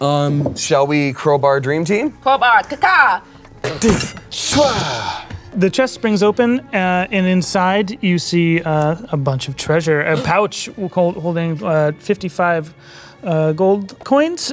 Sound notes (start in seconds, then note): 4.3 grunting